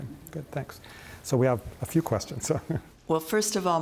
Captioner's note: laughs